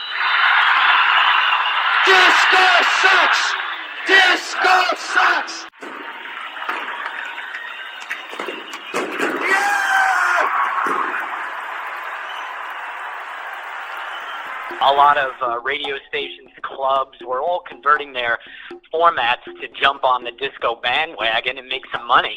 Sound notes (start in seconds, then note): 0.2 crowd cheering; 5.7 fireworks exploding; 6.4 crowd cheering